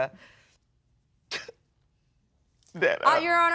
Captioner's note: sobs